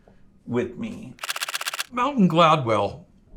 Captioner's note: photos clicking